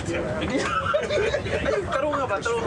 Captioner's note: passengers laughing